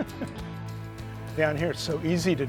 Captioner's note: laughs